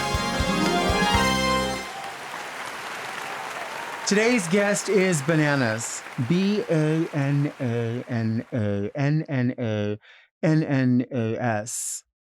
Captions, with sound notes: (audience applauding) Today's guest is bananas. B-A-N-A-N-A-N-N-A-N-N-A-S!